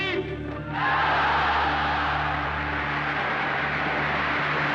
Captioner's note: crowd cheers